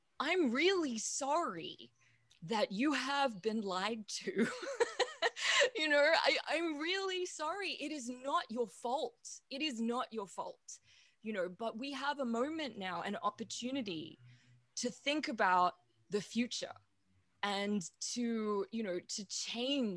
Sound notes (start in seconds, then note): 4.4 laughs